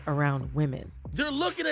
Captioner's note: soundbite of archived recording